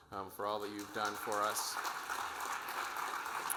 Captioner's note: audience applauding